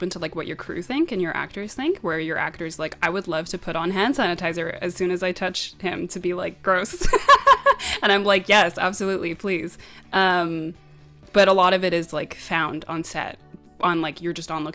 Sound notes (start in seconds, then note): 7.1 laughs